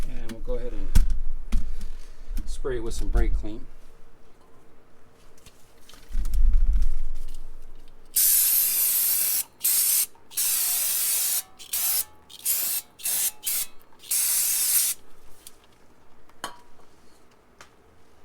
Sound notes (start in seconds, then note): 8.1 spray sounds